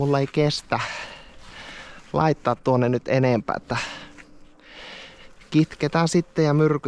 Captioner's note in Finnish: huokaus